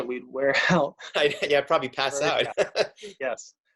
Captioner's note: chuckles